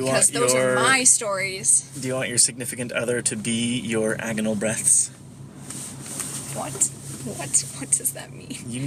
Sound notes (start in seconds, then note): 5.7 jacket rustling